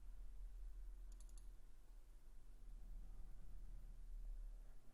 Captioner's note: clicking